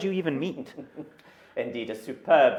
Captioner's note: laughs